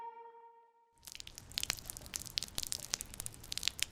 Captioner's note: raining, storming